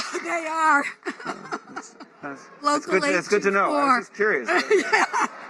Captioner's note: laughter